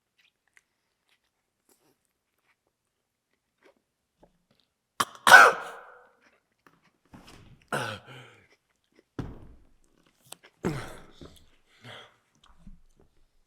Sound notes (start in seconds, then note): 5.0 Jacob coughs; 7.7 Jacob gasps; 10.7 Jacob groans